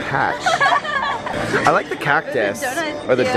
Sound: laughing

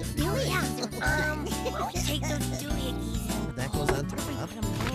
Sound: busily Chattering

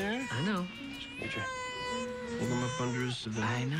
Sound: continues crying

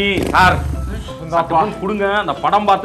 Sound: his friend sighs

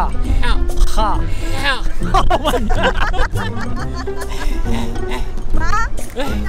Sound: ضحك

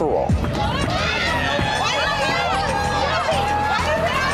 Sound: cheering

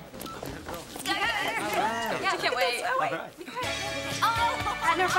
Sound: chattering

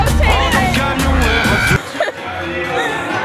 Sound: screams

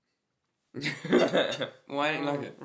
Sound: laughing

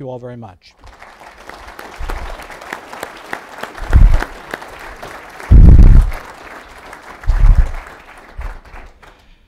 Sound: applause

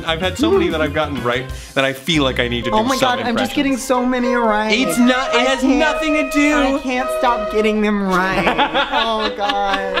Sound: laughs

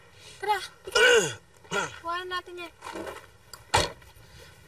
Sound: Aldos clears throat; car door closes

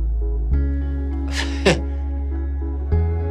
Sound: laughing

